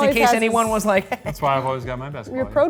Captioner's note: chuckling